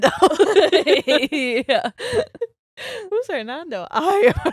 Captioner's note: all laughing